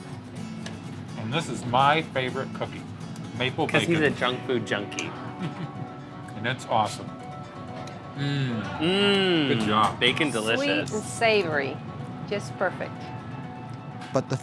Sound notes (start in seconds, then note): 7.9 laughs